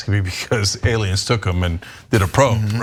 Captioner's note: laugh